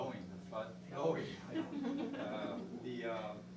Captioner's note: laughter